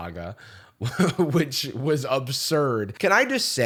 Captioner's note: laughing